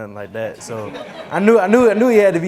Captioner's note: laughing